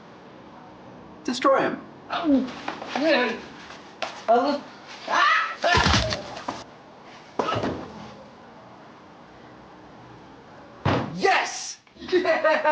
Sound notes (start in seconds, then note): 3.4 man grunting; 3.4 neck cracking; 7.7 body thudding